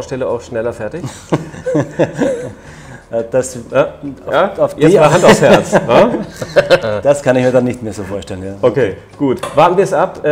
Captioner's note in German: lacht